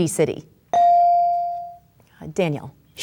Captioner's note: bell dings